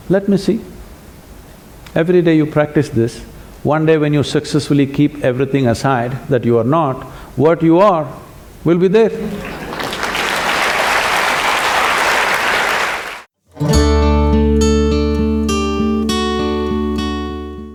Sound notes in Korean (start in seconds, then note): 9.3 박수